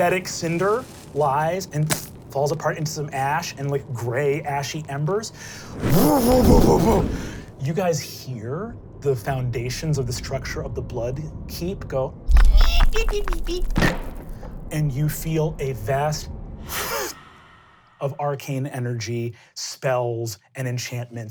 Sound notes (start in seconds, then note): 0.0 cracking stone; 6.2 flames crackling; 12.3 creaking and thudding